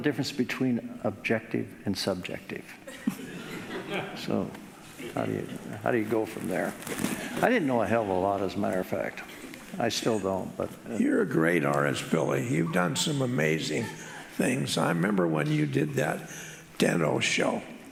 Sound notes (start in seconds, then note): 2.9 audience laughing